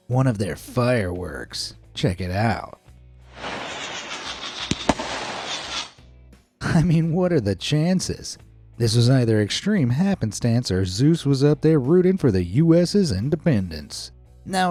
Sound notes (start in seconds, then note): 3.3 fireworks whooshing; 3.3 fireworks popping